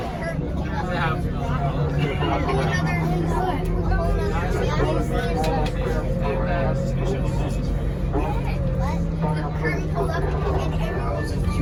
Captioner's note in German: Geschwätz an Bord des Busses